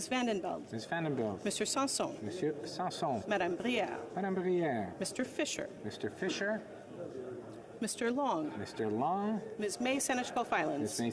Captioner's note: calling of recorded vote